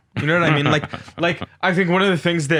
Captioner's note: laughing